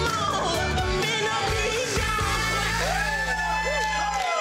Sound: group cheering

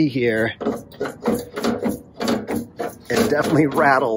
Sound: rack rattles

